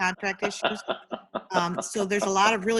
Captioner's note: laughs